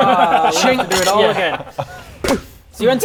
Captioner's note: chink